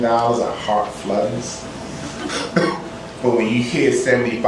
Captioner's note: laughter